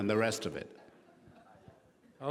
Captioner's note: laughing